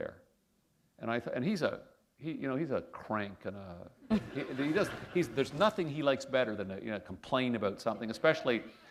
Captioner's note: laughter